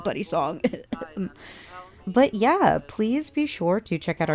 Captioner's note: coughs